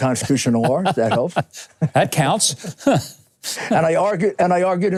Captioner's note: laughing